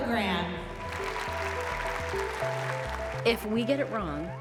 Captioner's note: audience applauding